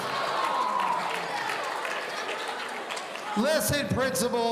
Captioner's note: audience cheering